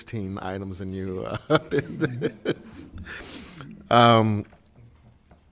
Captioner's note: laughs